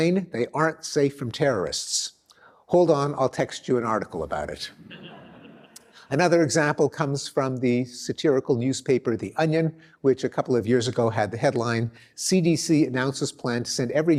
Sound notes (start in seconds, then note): 4.8 laughter